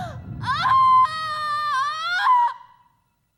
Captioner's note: screams